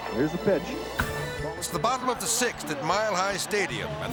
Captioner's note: air swoosh; bat smacking